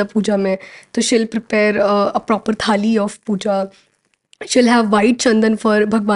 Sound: speaking in Hindia

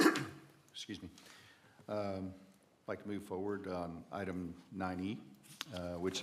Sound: cough

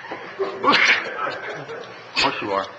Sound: audience laughs; member sneezes

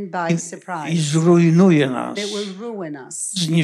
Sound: foreign language

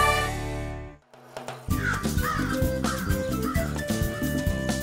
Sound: squawking

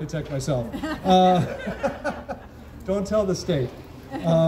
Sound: crowd chuckles

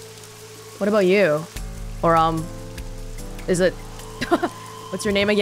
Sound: chuckles

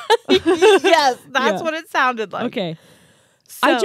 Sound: laughing

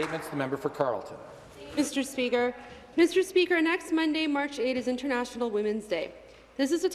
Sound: some Applause

